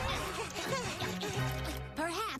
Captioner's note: gasps